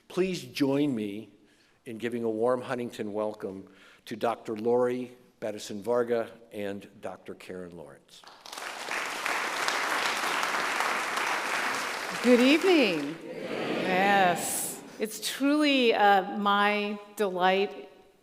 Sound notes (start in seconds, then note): 8.2 group applauding